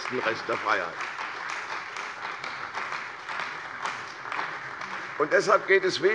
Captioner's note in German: Beifall bei der CDU und dem BÜNDNIS 90/DIE GRÜNEN